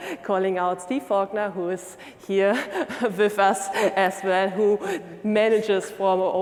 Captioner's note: laughing